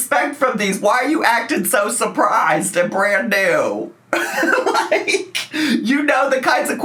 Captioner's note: laughs